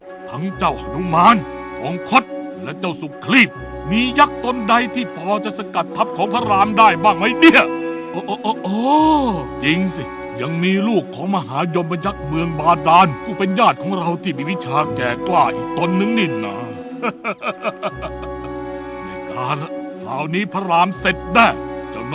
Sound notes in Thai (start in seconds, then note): 16.7 หัวเราะ